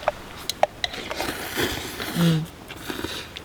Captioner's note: slurping noises